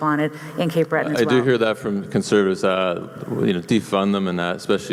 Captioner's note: voiceover